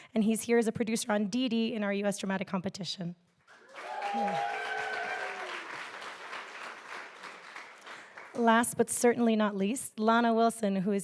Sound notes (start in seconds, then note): 3.5 audience applauding; 3.6 audience cheering